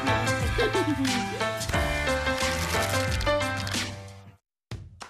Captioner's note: laugh